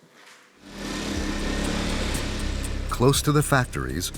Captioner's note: engines revving